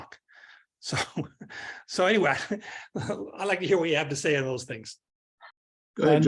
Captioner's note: laugh